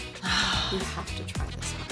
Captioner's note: sighs